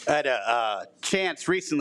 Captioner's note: none